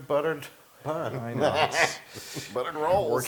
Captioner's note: laugh